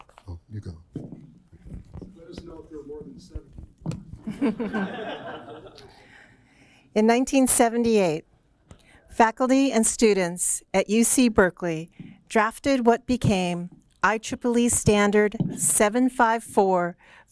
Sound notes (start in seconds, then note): 4.2 laughter